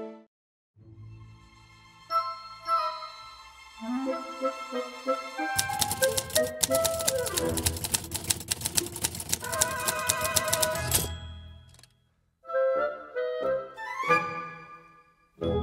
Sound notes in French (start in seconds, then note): 0.8 musique malicieuse; 5.5 claquement de machine à écrire